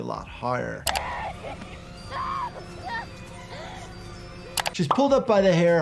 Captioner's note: victim 1 screaming and crying